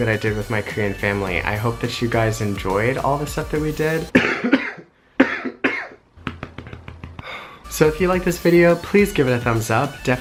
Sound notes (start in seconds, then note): 4.1 coughing; 6.2 patting; 7.2 deep breath